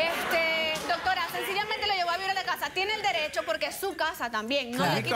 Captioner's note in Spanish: Risas